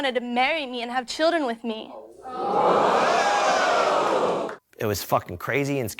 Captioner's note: audience exclaiming